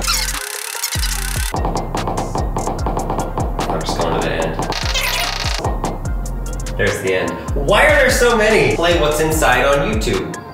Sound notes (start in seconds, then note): 0.0 fast forward screech; 1.5 knocking sound; 4.7 fast forward screech